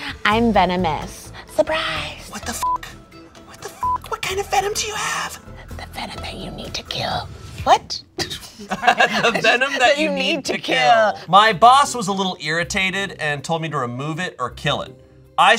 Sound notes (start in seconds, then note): 2.6 beep